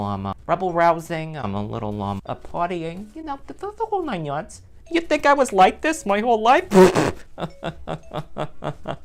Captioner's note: laughs